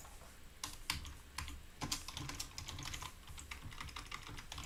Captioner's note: keyboard clicking